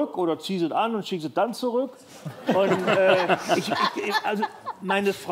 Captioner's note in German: Lachen